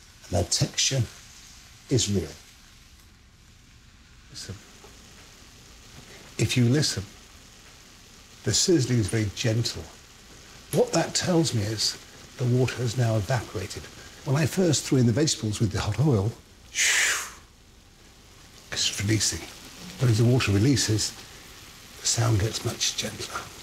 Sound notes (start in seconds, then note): 17.0 Marco imitating whooshing sound